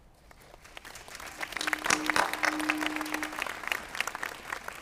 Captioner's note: audience applauds